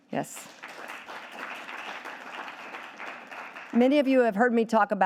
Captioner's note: audience applauding